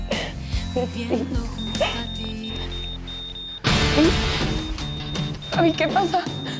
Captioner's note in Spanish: Se aceleran pitidos